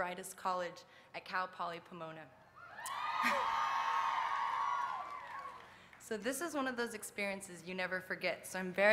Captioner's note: applause